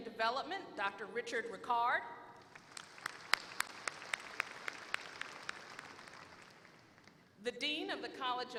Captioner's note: applause